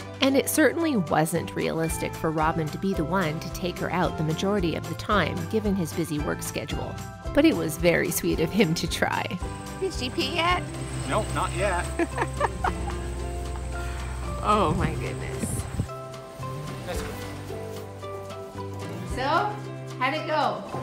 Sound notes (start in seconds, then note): 11.9 laughs